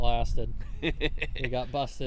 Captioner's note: laughing